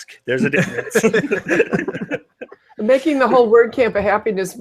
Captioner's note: everyone laughs